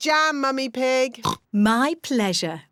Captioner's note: oinks